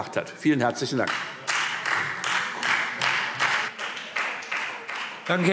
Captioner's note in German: Beifall Freie Demokraten